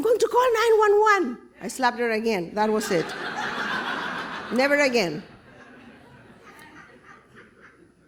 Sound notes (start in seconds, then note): 2.8 laughter